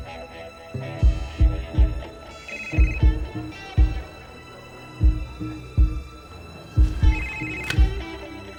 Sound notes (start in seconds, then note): 0.3 buttons beeping; 2.4 phone ringing